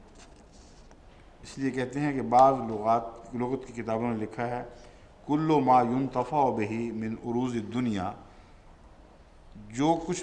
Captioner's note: Arabic